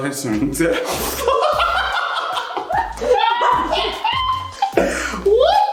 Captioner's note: laughing hysterically